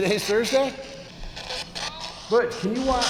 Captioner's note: spirit box voice